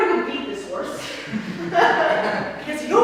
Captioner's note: audience laugh